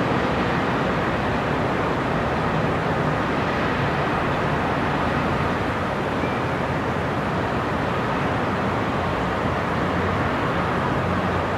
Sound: sound of distant cars and city noises

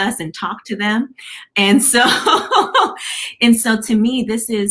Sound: laughter

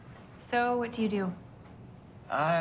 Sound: none

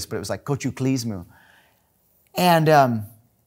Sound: speaking in foreign language

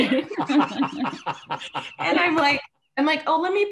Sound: all laughing

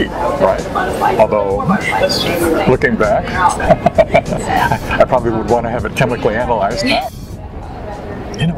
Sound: laughter

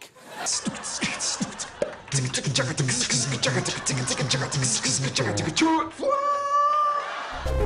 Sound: beat-boxing

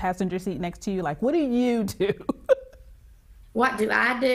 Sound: laughs

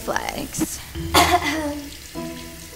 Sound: coughs

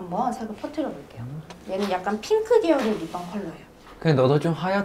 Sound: rubbing

